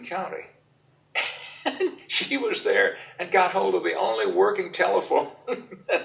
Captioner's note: laughs